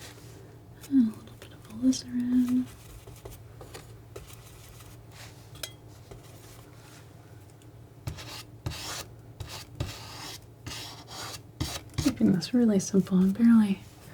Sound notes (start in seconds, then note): 3.1 scratching